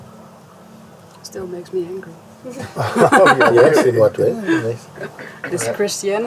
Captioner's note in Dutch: gelach